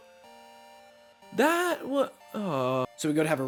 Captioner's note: sounds of dissapointment